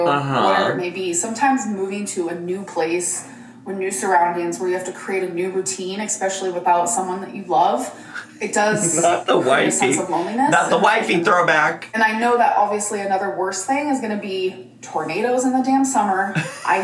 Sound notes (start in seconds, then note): 8.0 laughs